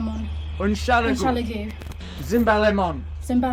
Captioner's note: Emma speaking in foreign language; both speaking in foreign language; Alan speaking in foreign language